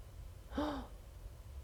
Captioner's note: gasp